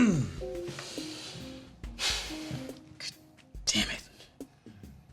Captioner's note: sighs